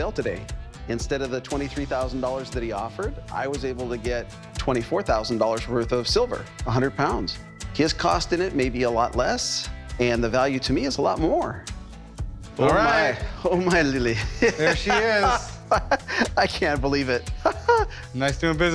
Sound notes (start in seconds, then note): 14.1 laughs